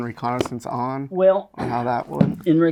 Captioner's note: objects knocking